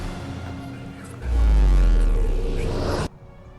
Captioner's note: Portal bass boom